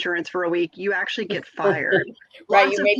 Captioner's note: laughs